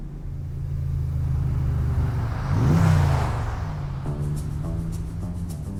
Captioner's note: motor revving